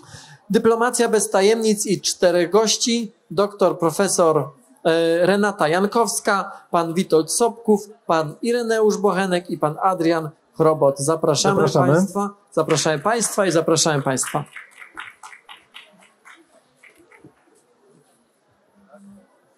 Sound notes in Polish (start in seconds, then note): 15.8 oklaski